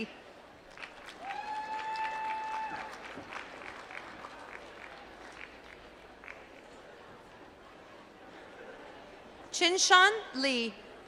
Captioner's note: applause